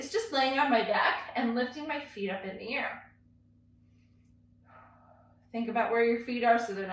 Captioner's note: exhales